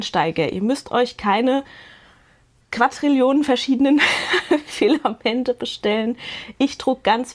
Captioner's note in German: gelächter